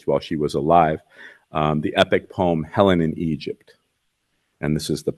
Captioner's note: none